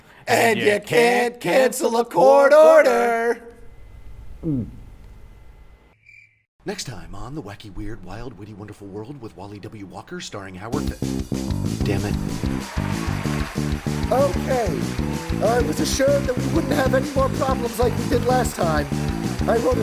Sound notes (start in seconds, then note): 4.5 gulps; 12.8 applause